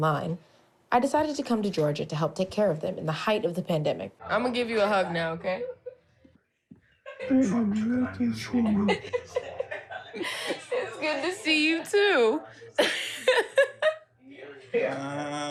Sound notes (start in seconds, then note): 8.3 both laugh; 12.7 chuckles